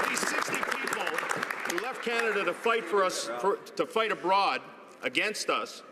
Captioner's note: some Applause